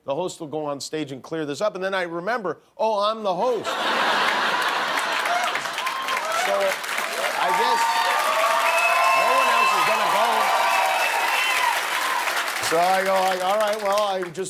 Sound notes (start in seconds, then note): 3.5 laughter; 3.7 cheers and applause